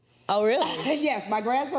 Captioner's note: laughs